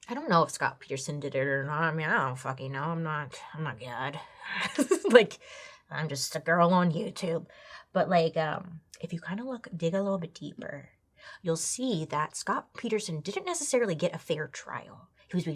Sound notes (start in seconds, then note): 4.6 laughs